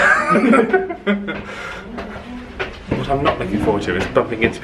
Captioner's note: both laughing